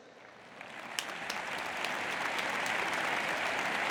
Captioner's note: audience applauds